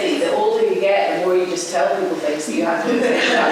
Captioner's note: laughter